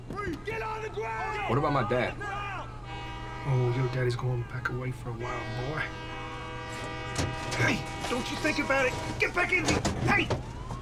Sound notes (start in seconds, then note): 7.1 truck door opens